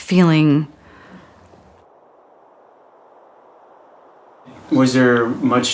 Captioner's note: no audio